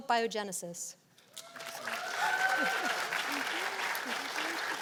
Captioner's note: cheers and applause